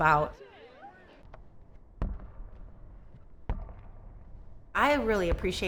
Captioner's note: ball bounces on court